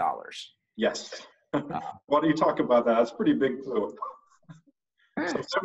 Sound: laughing

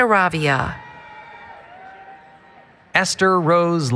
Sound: cheering

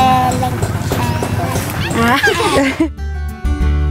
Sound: children laughing

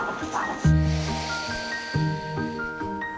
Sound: heartbeat thumping; breathing

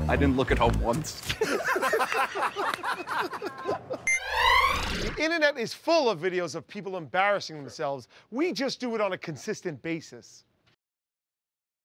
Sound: laughter

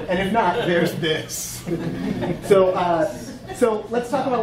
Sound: audience laughing

